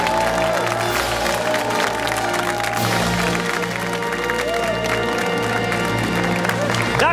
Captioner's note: fanfare; cheers and applause